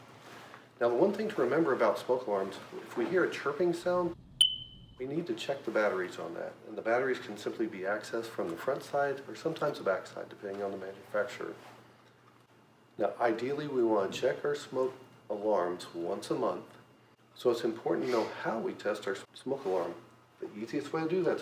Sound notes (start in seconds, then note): 4.4 single smoke alarm chirp